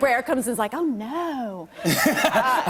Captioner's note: laughter